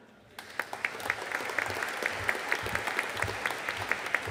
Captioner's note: audience applauding